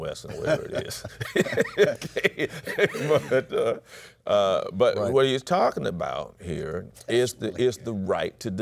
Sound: laughs

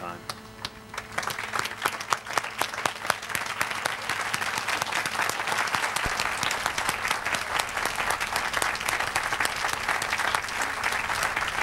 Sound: applause

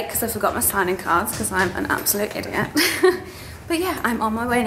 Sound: laughs

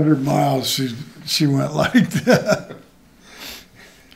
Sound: laughs

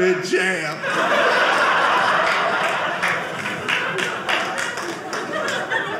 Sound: audience laughing

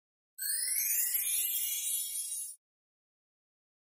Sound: chimes tinkling

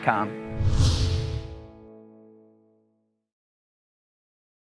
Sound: air swooshing

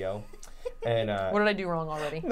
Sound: laughing

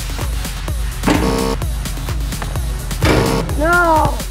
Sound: buzzing

